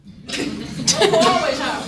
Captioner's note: audience laughing